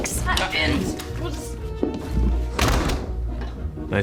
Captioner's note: door opens, closes